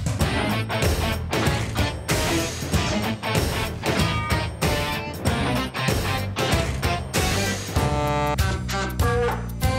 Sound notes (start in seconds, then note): 4.1 trucks honking